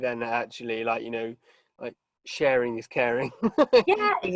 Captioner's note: chuckles